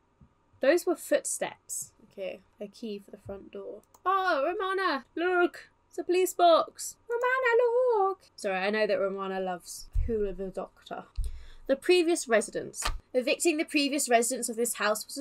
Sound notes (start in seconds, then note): 7.0 high pitched